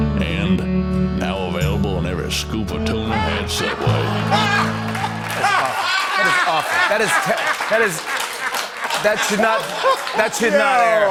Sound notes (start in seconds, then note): 3.4 laughter